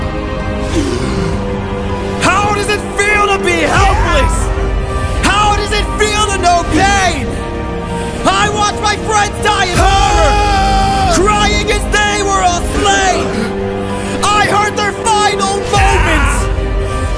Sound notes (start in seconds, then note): 9.7 ah!!